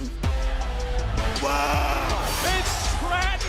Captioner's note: cheers